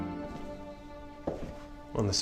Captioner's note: footsteps